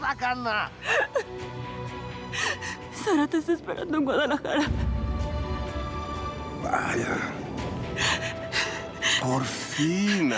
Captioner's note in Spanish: ella llora